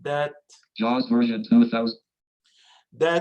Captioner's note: automated Voice